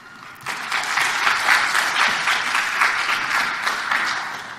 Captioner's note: audience applauding